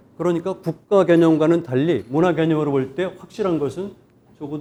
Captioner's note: speaking in Korean